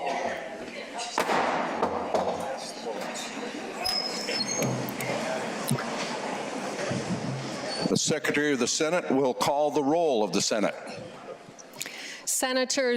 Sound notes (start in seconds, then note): none